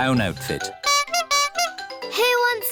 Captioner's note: toots horn